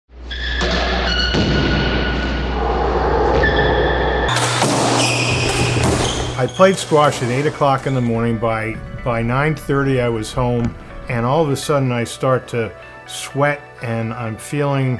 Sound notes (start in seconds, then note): 0.2 sneakers squeaking on floor